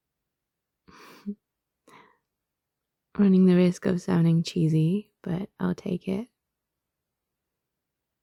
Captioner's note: small laugh